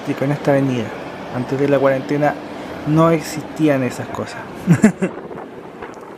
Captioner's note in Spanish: risas